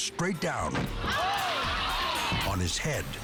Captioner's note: crowd